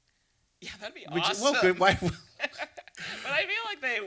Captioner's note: laughing